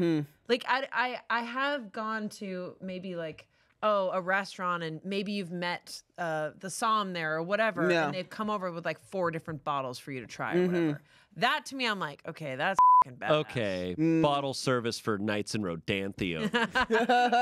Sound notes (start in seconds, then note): 12.7 beep